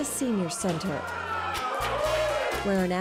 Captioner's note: cheering